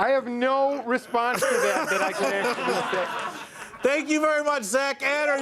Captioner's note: laughter